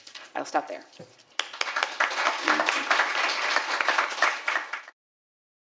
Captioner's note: applause